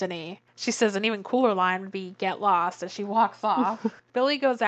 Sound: laughs

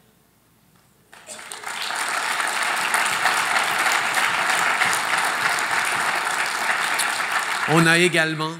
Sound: applause

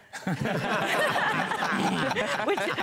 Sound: laughter; laughs

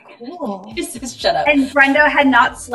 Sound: laughing

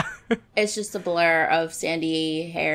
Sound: laughs

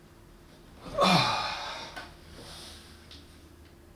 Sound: sighing

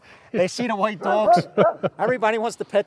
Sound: laughs

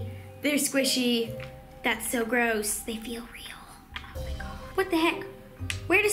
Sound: whispers

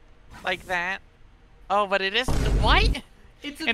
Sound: boom

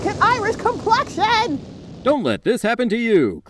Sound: sound of burning

